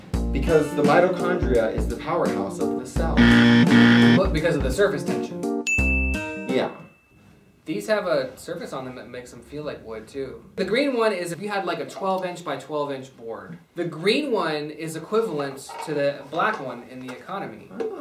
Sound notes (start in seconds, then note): 3.2 two buzzer sounds; 5.6 ding